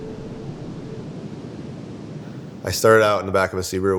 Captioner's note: waves lapping